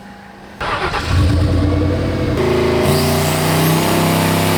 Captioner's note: engine revving loudly